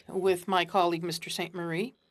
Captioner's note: speaking French